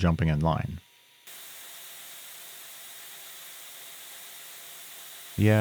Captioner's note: machinery whirring